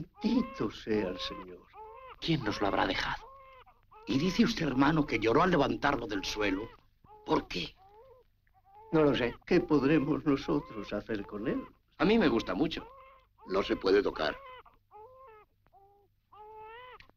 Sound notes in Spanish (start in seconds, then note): 5.2 baby continues to cry; 12.8 baby crying